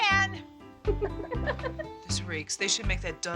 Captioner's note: laughing